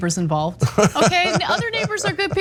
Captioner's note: laugh